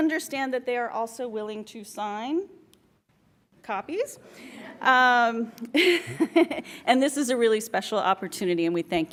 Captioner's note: laughs